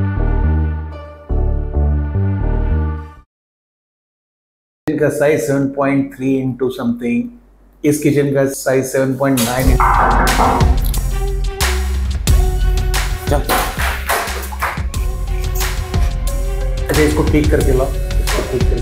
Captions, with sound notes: Size 7.3 by something... Size of this kitchen 7.9... ? (Door bangs) Common... OK. Correct this and bring back. Correct this...